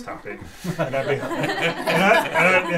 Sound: laughter

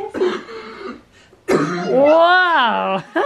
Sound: coughing

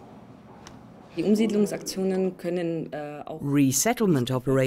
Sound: speaking in foreign language

